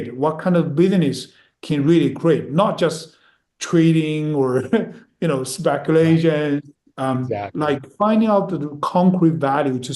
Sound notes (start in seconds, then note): 4.5 chuckles